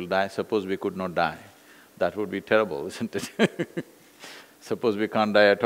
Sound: laughs

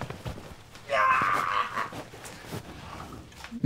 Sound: grunting

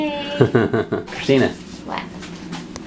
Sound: dad laughing

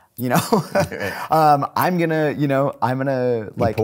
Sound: laughing

